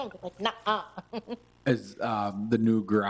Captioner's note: chuckles